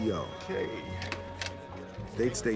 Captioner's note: phone rings